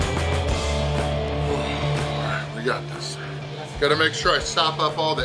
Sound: upbeat instrumental music; sighs

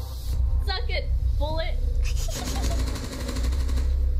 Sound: mischievious laughter

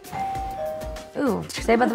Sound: doorbell rings

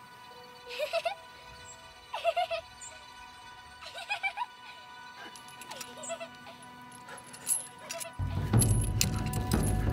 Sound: childs laughter

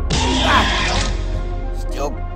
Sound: Velociraptor screeches

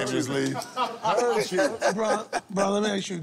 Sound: laughter

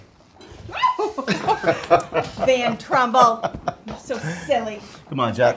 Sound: gasps

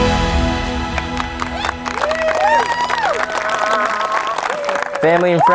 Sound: cheering, clapping

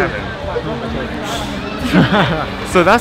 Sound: hiss

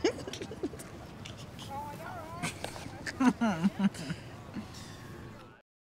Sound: laughs

